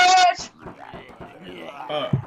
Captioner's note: shouting; zombies growling